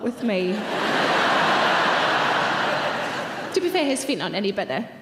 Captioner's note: audience laughing